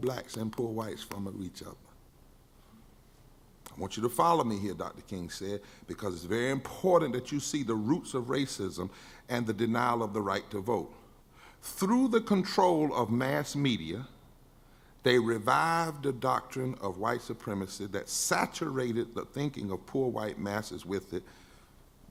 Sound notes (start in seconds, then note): none